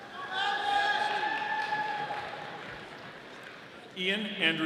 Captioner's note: audience applauding